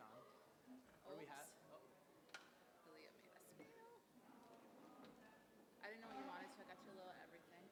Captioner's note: background chatter